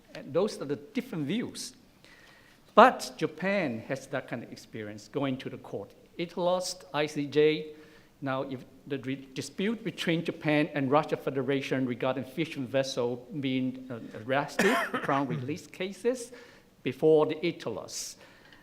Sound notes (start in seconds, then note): 14.5 coughing